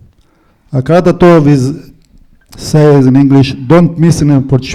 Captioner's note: foreign language